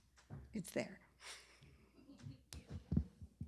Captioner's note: laughter